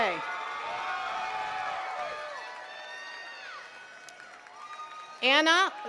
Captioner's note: attendees cheering and clapping